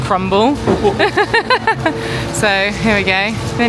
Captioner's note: laughs